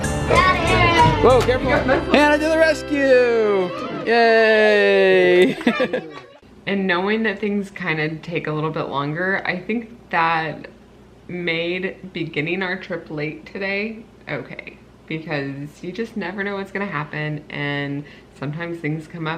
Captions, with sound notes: - Got it, oh careful. Hannah to the rescue. Yeah. (laughs) - And knowing that things kinda take a little bit longer, I think that made beginning our trip late today okay. Because you just never know what's gonna happen, and sometimes things come up that's out